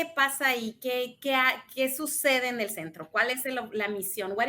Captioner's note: speaks in Spanish